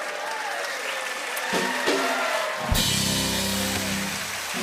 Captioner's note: cheers and applause